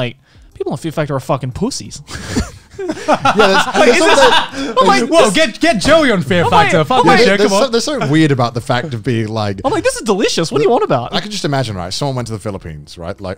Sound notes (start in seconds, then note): 2.2 everyone laughs